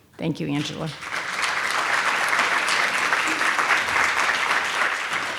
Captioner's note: audience applauding